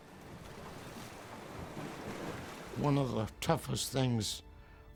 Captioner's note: waves gushing